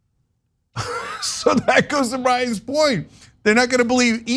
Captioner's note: laugh